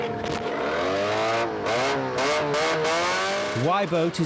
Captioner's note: engine revs